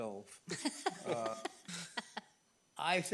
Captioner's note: board members laugh